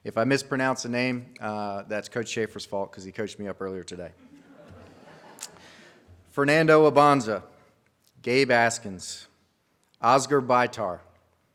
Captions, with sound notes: If I mispronounce a name, that's Coach Schaeffer's fault 'cause he coached me up earlier today. (audience laughs) Fernando Abonza, Gabe Askins, Ozgur Baytar, Dom Bilotta,